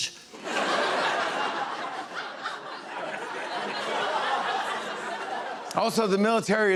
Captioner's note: laughter